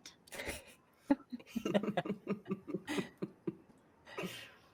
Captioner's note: laughing